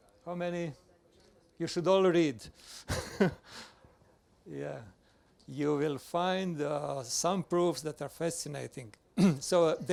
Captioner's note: laughs